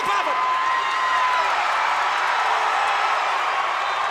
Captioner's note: audience cheers